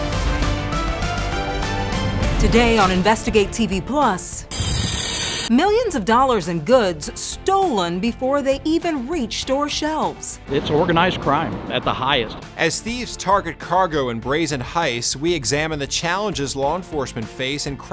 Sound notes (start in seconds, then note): 0.3 resolute music; 4.4 saw fizzes